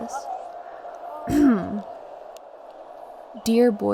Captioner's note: she clears her throat